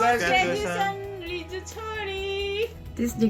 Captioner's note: speaking in a foreign language